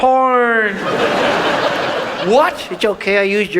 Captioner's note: audience laughs